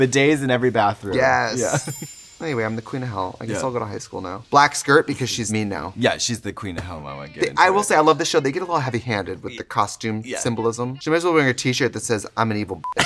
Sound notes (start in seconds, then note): 1.4 twinkling; 12.8 beep